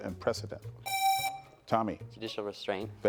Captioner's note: presses buzzer